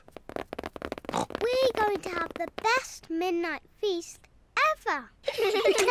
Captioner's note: pattering; oinks; all giggle